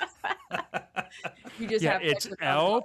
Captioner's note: laughing